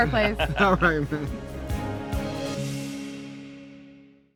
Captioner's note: laughing